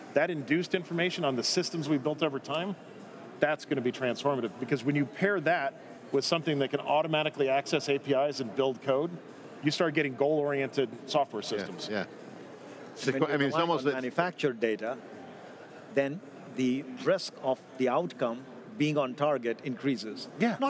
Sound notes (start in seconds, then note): 13.0 group speaking together